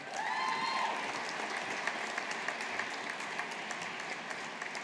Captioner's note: audience applauding